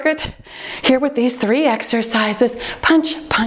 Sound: timer beeps

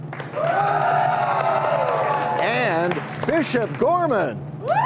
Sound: cheers and applause

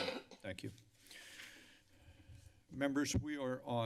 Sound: inhales deeply

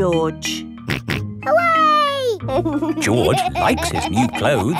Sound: snorts and laughs

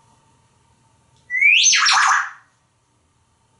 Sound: whistling

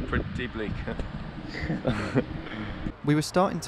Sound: both laughing

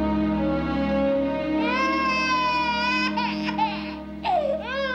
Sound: video squeaking

